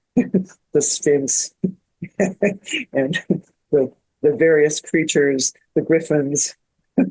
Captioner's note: laughing